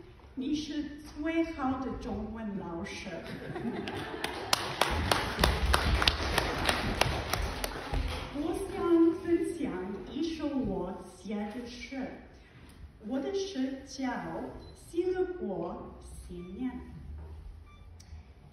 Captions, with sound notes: You are the best Chinese teacher. (Laughter and applause) I would like to share a poem I wrote. My poem is entitled “Joyfully Celebrate the New Year”.